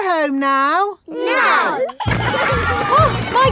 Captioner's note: giggling